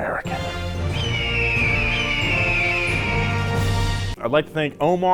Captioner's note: eagle screeches